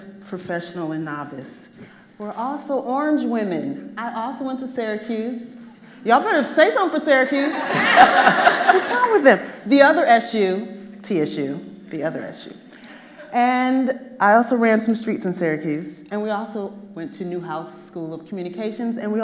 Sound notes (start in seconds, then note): 7.4 audience laughing